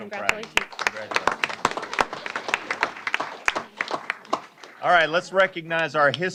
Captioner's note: applause